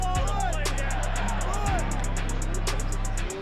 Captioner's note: players shouting; crowd cheering